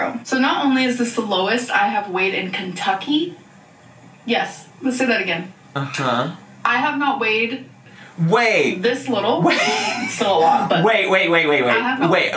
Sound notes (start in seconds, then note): 9.4 chortles